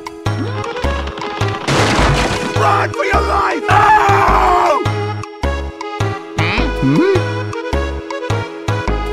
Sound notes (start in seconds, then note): 3.6 A Scream